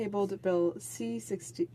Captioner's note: speaking French